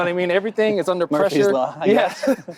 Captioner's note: laughs